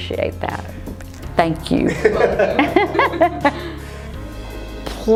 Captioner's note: laughs